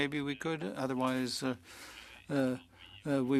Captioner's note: speaking French